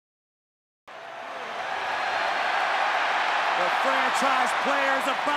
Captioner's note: audience cheering